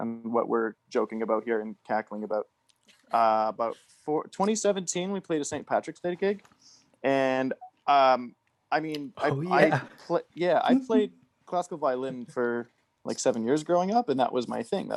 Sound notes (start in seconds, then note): 9.3 laughs